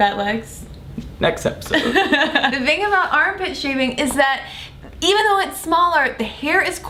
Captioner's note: laughter